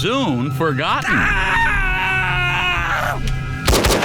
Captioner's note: screams